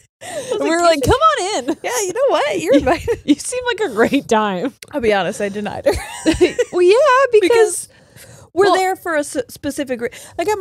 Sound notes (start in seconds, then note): 0.3 laughs; 5.9 laughs